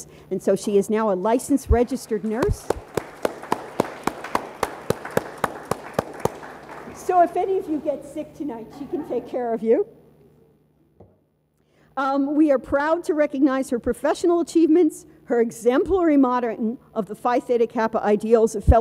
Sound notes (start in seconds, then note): 4.2 audience applauds